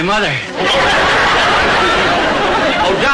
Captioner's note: audience laughter